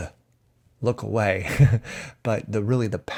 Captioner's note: chuckles